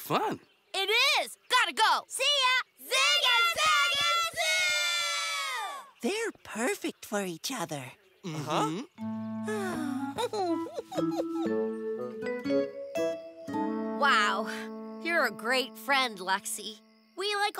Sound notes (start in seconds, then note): 8.3 content sigh; 9.5 giggling